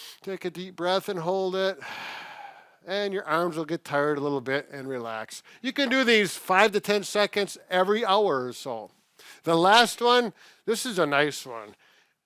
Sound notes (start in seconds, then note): 0.0 breathes deep; 1.8 exhales